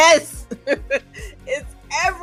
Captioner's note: laughs